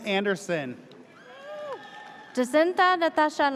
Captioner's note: audience cheers